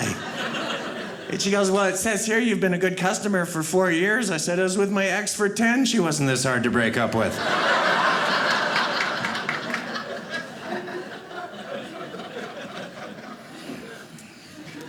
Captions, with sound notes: And she goes, "Well, it says here "you've been a good customer "for four years." I said, I was with my ex for 10. She wasn't this hard to break up with. (audience laughing)